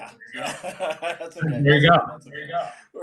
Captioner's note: laughs